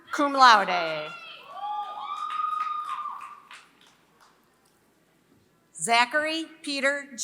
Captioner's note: applause